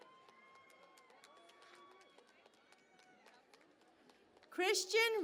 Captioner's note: cheering and Applause